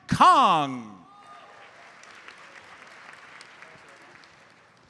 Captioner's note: audience applauds